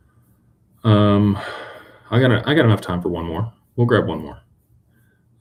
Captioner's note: sighs